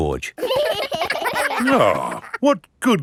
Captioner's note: giggling